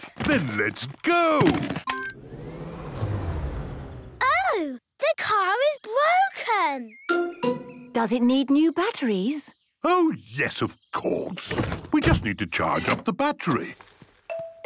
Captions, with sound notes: - Then, let's go! - (car chimes) - (whirring, whirring stops) - Oh! The car is broken. - Does it need new batteries? - Oh, yes, of course! We just need to charge up the battery.